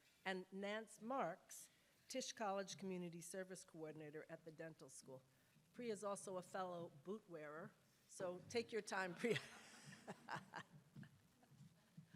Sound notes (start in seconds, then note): 9.3 laughs